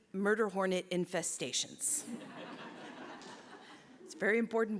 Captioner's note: laughter